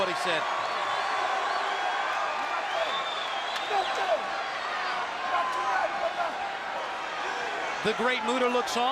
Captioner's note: crowd cheering